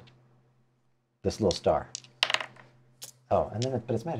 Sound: die clatters

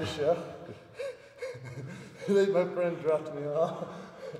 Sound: laugh

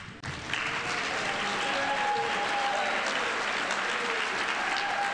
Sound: audience applauding

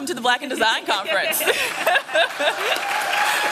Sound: laughter; applause and cheering

